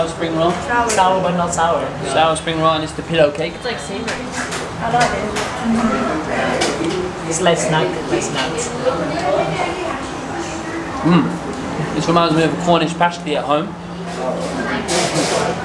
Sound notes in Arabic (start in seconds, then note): 7.0 الثرثرة الخلفية